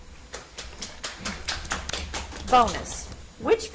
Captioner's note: audience applauds